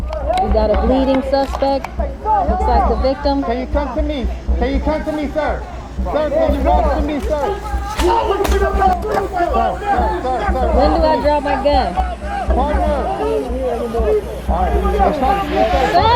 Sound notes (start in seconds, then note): 6.6 multiple people yelling in background; 8.0 community Members yelling at same time; 12.0 multiple people yelling in background